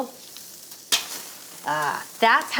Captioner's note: bratwurst sizzles